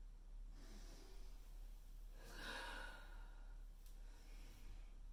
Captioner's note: Leona breathes deeply